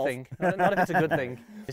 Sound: laughs

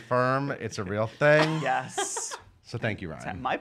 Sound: laughing

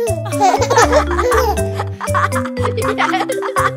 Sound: laughing

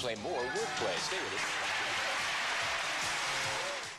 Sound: clapping

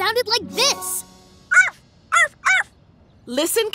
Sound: barking

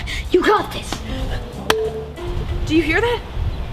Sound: button rings

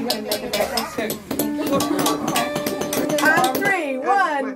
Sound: tapping sound

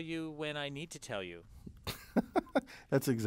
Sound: laugh

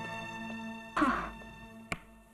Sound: sighs

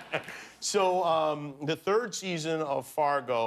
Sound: laughter

